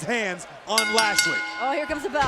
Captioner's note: bell rings